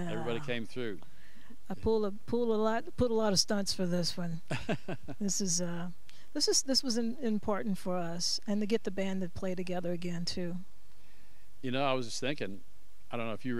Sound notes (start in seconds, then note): 4.5 laughing